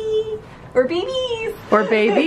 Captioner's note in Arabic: ضحكات خافتة